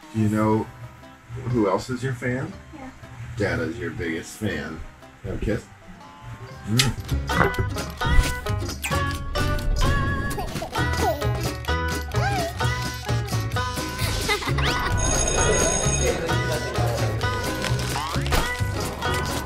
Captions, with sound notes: - You know who else is your fan? Dada's your biggest fan. Can I have a kiss? (upbeat banjo music) (school bell)